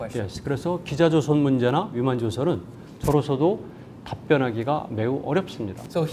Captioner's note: speaking in Korean